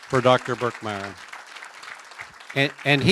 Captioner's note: applause